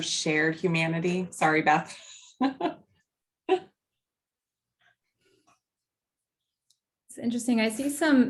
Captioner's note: laughter